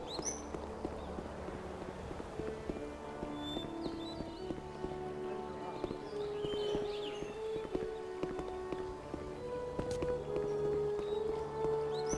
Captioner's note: birds chirping